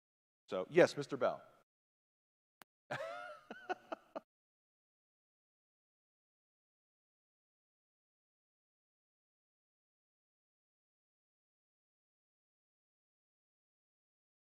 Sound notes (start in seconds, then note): 2.9 laughing